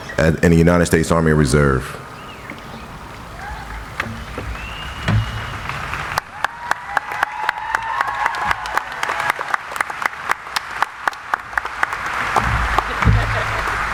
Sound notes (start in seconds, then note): 6.7 audience applauding